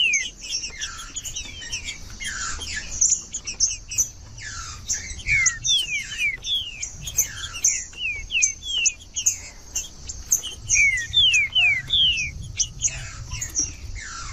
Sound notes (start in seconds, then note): 1.2 trinca ferro cantando; 3.2 trinca ferro cantando; 5.2 trinca ferro cantando; 7.2 trinca ferro cantando; 9.2 trinca ferro cantando; 11.2 trinca ferro cantando; 13.2 trinca ferro cantando